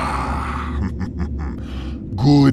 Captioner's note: Acoleyet snickers evilly